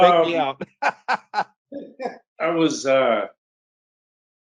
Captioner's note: laughs